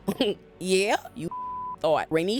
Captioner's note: beep